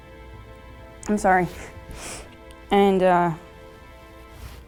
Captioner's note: sniffles